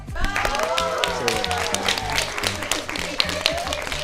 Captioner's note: audience applause